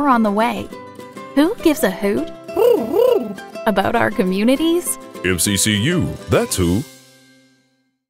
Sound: owl Hoot

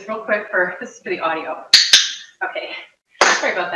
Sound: loud clicks

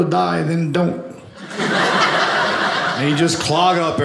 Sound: audience laughing

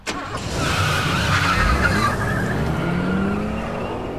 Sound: tires squealing

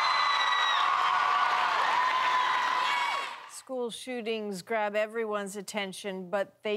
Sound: cheers and Applause

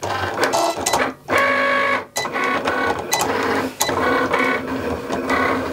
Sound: machine whirring

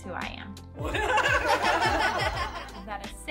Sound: canned laughter

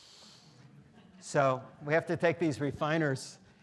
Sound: students laughing

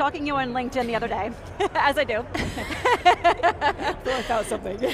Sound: laughing

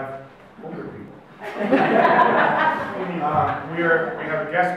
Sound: audience laughs

